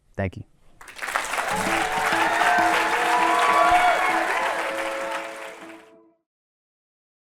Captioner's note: music, applause and cheering